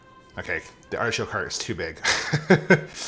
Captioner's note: laughing